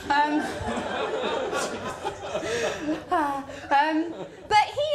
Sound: laughter

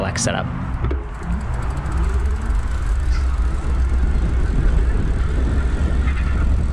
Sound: bike motor roaring; bike rattling

